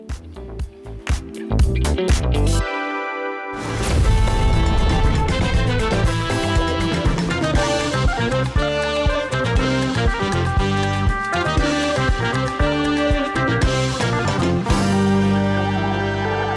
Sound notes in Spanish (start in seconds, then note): 0.0 Música Funk; 3.5 Explosión del logo de BK42